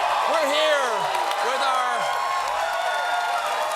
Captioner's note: cheers and applause